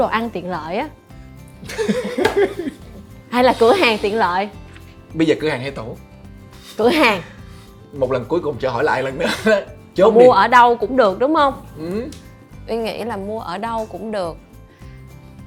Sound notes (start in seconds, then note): 1.6 laugh